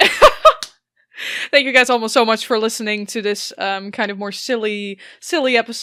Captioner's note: laughs